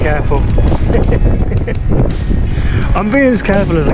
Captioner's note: laughing